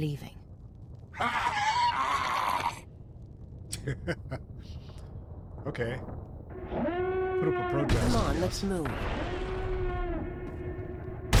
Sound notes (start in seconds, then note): 1.8 laughs